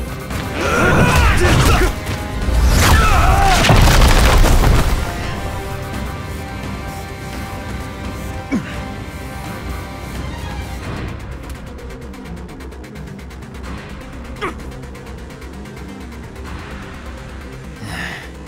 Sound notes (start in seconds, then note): 0.6 Hwoarang yells; 8.5 Jin moans; 14.1 spits; 17.8 exhales